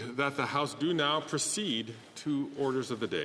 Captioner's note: speaking French